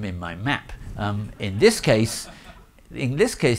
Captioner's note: audience laughing